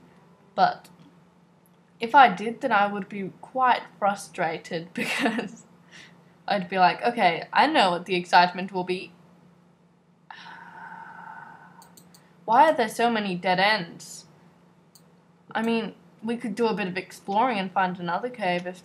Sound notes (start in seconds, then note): 10.4 groans